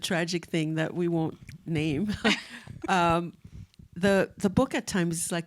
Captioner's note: chuckles